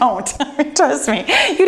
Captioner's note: laughs